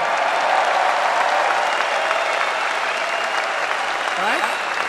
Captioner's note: applause